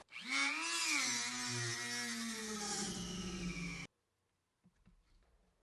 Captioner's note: Dremel buzzing